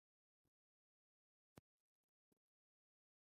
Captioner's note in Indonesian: none